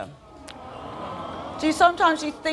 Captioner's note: audience aww